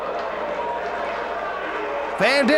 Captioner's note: spectators cheering